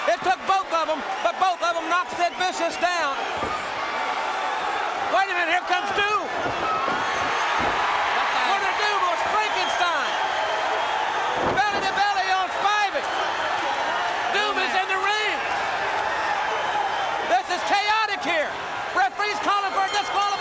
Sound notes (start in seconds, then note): 3.9 crowd cheering; 7.1 crowd cheering; 10.8 crowd cheering; 13.3 crowd cheering; 15.5 crowd cheering